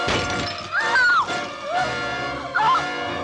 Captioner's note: screams